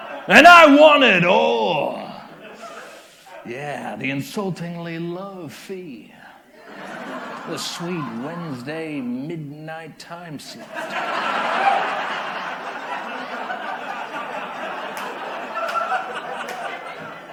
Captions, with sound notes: And I want it all! Yeah, the insultingly low fee, the sweet Wednesday midnight time slot. [Laughter]